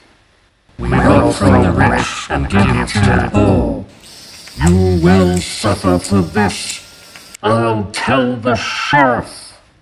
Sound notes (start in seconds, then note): 3.9 angry whirring sounds